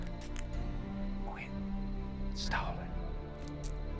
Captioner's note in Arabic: همس بصوت خافت